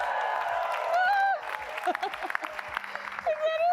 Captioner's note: applause